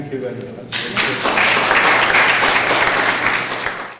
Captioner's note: applause